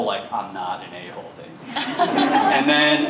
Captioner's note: laughter